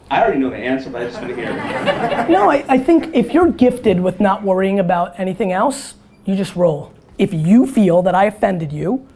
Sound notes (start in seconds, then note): 0.9 audience laughter